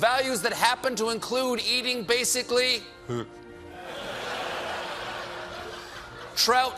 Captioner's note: gags